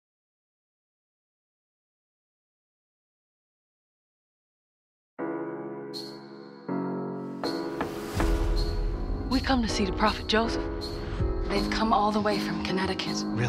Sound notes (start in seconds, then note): 5.2 intense piano music; 5.2 knocking